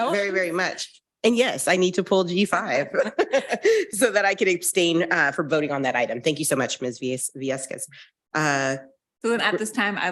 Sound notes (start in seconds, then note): 2.9 laughing